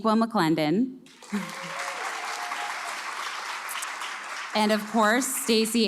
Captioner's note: cheers